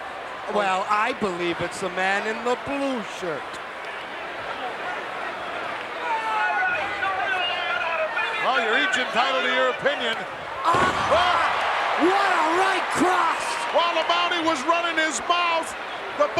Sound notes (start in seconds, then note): 3.8 crowd chattering